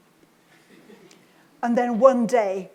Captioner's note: audience laughs